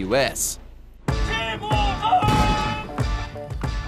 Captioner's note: shouts order